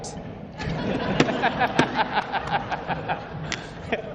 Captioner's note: all laughing